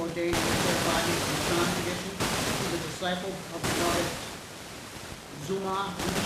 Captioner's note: static hissing drowns out speech